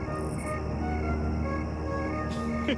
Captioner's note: crickets chirping; light orchestral music